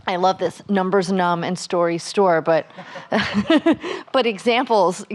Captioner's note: laughs